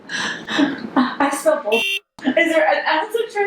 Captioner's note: beep